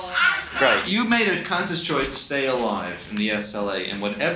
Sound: voiceover

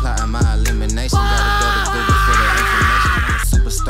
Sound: desperate screaming

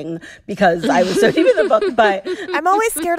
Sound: laughter

